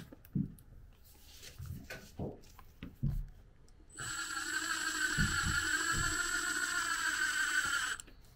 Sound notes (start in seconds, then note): 3.9 drill whirring